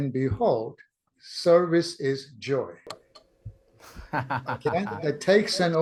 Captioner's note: laughs